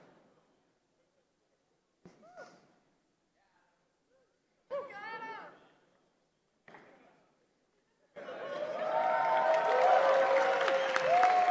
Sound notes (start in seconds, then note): 4.6 laughter; 8.2 applause